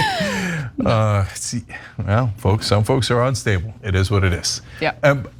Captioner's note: laugh